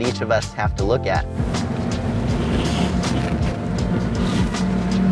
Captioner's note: car engine revving